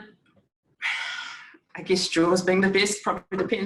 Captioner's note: sighing